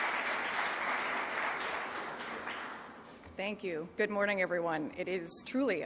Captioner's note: applause